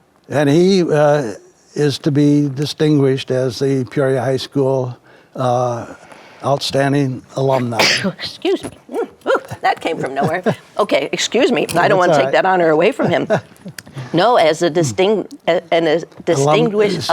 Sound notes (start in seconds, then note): 7.5 sneezes